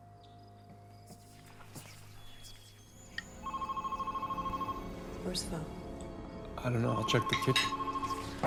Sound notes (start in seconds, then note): 1.4 ominous whispers; 3.3 phone ringing